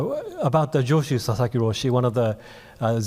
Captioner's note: speaking in foreign language